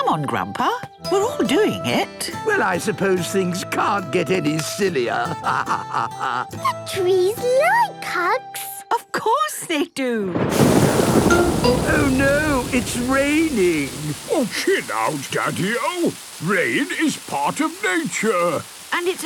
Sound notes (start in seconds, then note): 5.3 laughing; 10.3 thunder booming